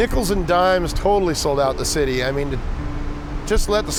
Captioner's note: none